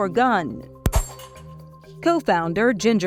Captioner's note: gun firing